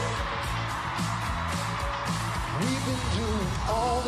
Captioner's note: audience cheering